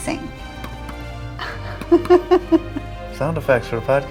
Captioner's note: heart pounding sounds